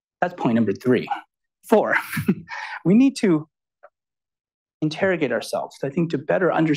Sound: chuckles

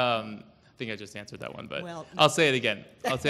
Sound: laughs

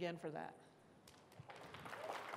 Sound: applause

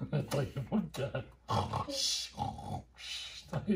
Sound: mimics the sound of someone snoring

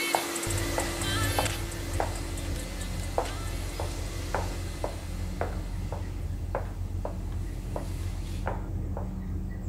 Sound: high-heel footsteps

